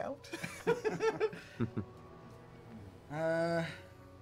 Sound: laughing

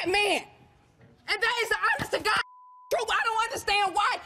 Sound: beep

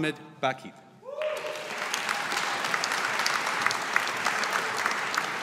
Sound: audience applauding

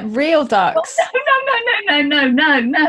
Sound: both laugh

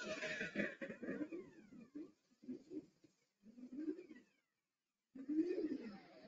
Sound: swirling beeping and whirring

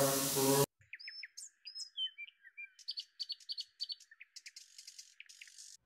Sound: singing; birds Chirping

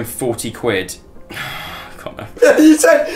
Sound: deep breath; sigh

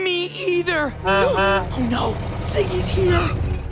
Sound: honking

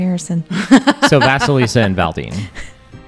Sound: laughs

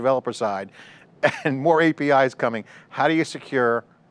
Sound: chuckles

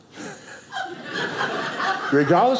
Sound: audience laughing

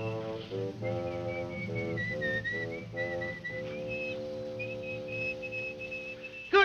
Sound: man whistling; dramatic music

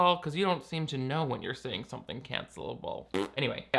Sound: blows raspberry

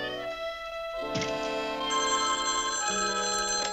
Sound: phone rings

